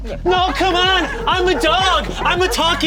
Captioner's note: dogs barking